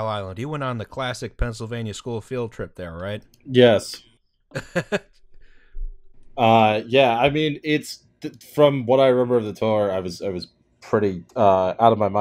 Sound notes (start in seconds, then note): 4.5 laughter